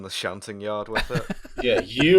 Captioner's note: laughter